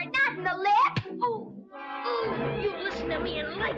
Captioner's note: blow thudding; boys groaning